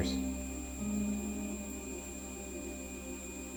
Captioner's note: REM-Pod beeping